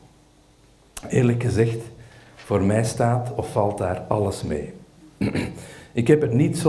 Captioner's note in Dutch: schraapt de keel